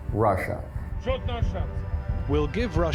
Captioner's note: speaking foreign language